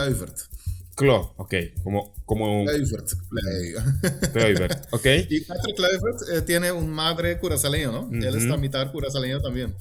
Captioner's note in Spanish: risas